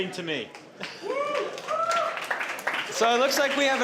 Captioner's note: audience clapping and cheering